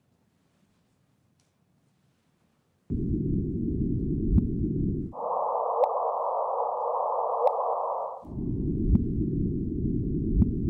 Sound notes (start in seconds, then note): 3.4 swishing sound